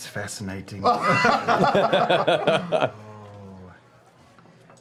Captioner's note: laughter